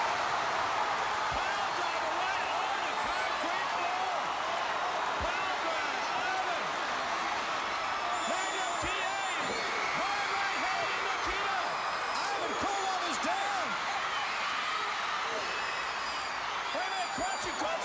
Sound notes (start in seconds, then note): 0.2 crowd cheering; 10.9 crowd cheering